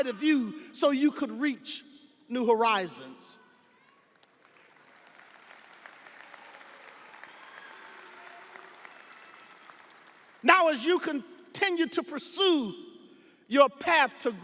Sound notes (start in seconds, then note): 9.7 audience applauding; 9.7 audience cheering